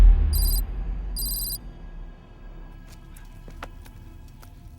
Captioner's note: letters clicking